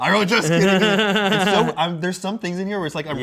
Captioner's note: laughs